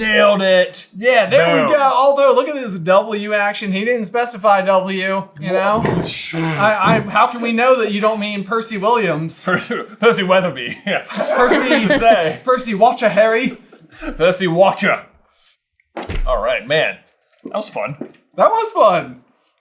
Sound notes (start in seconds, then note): 10.6 team laughter